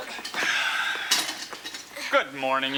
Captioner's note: Noseworthy sighing